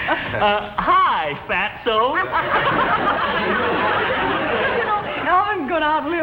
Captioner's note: Mr. Fuddy and Elizabeth giggle; audience laughs